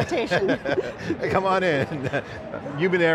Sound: laughs

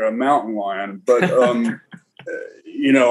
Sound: chuckles

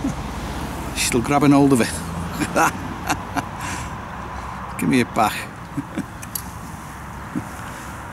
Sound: laughs

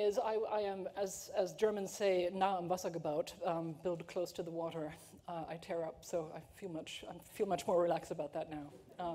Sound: german

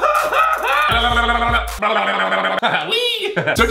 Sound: crazy scream; blubbering sound; laughs

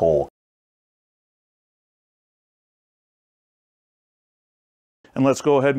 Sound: silence

